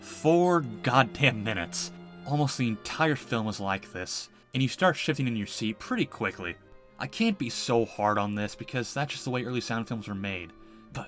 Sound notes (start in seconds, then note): none